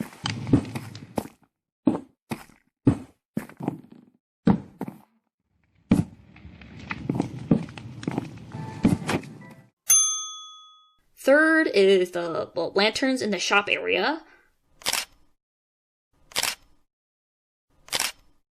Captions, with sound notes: Third is the 'lanterns in the shop area'. *camera click sound effect* *camera click sound effect* *camera click sound effect*